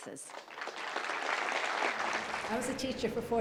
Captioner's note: company applause